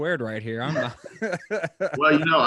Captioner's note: all laughing